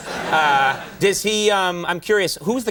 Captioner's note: audience laughing